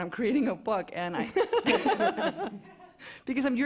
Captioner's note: laughter